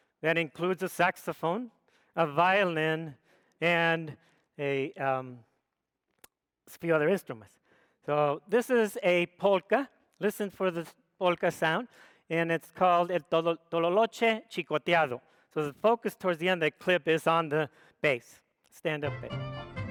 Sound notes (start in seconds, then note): 12.9 speaks foreign language